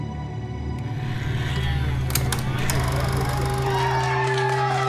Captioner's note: crowd cheering